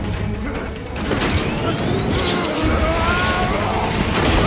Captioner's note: grunting; jets swooshing; grunting